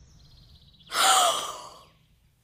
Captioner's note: gasp